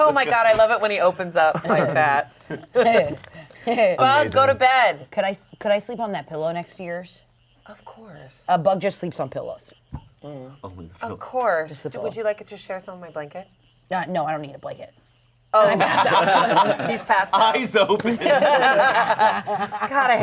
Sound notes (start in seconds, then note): 2.5 laughing; 15.6 laughing; 18.1 players laughing